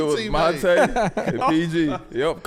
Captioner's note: laughing